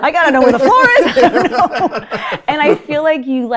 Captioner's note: laughing